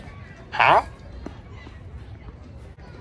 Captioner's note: huh in villager noise